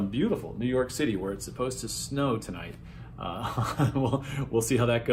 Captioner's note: chuckles